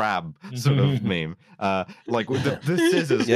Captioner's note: chuckles